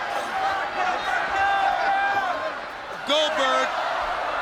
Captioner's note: crowd shouts